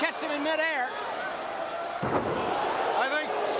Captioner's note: crowd cheering